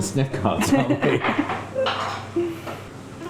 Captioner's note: laughing